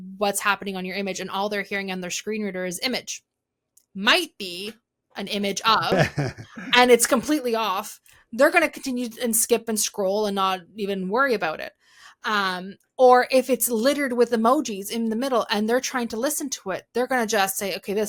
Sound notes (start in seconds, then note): 5.7 laughing